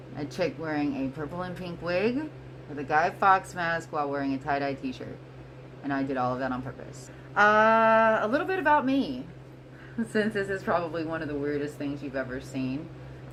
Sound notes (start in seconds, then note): 9.9 giggle